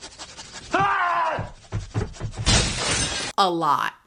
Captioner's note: people panting; man yelling; glass breaking